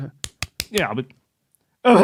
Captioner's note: knocking with hands